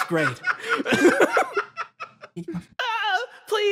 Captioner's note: laughs